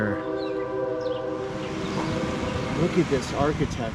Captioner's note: train whistle blows